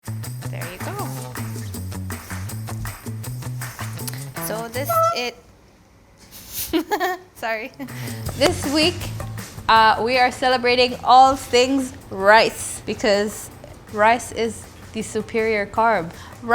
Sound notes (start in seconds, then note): 0.0 upbeat music; 4.8 dish squeaks; 6.4 laughs